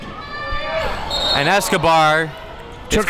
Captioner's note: whistle blows